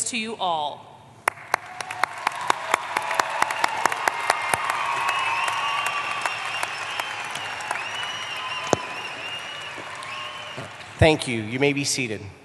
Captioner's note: applause